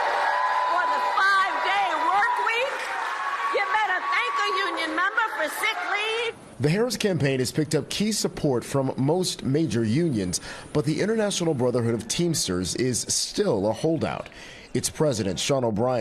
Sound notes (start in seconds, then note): 3.8 cheers and applause